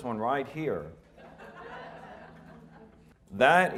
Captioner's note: audience laughing